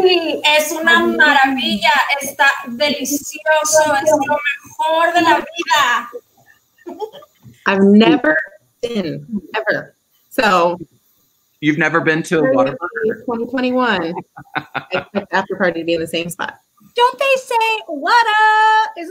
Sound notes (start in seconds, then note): 0.2 speaking in foreign language; 14.5 laughing